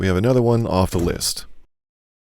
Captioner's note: door Slamming sound